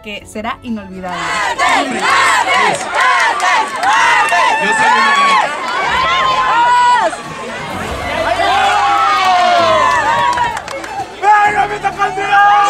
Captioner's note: shouts and cheers